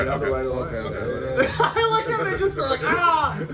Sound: laugh

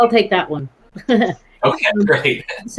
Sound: chuckles

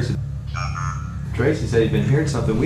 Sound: device beeping

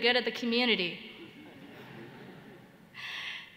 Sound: laughter

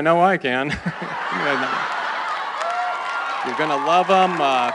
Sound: laughter

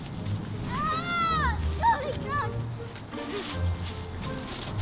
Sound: cheerful music; children laughing

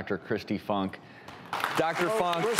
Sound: applause

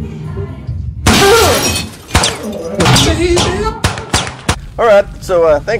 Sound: distressed techmoan noises; gunshots

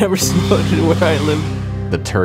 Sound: blasting

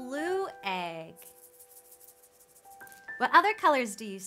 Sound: egg rattles

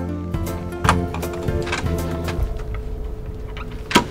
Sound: gentle music; air whooshing; door opens

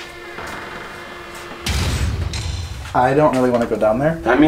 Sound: creaks

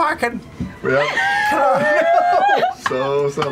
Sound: laughing; laughter

